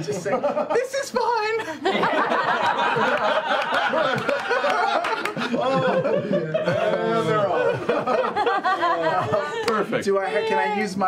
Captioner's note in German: Gelächter